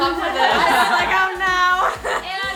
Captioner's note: all laughing